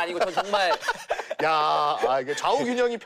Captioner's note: all laughing